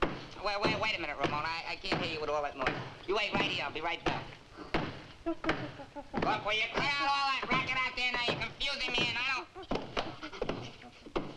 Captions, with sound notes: Wai, wai, wait a minute, Ramona. I can't hear you with all that noise. You wait right here. I'll be right back. (thumping continues) Look, will you cut out all that racket out there? Now, you're confusing me, and I don't.